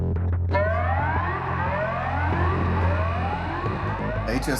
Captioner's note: siren blaring